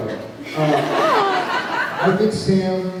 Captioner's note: laughs